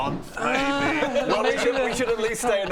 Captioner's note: devastated Roedelin noises